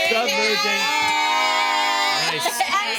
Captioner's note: group groans and hollers